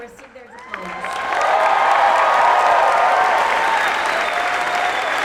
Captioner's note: applause, cheers